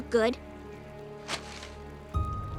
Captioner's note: paper rustles